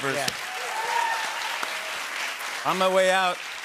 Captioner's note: cheers and applause